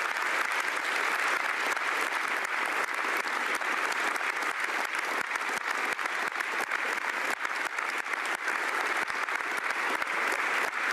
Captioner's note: applause